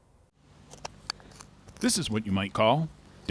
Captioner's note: spade clicks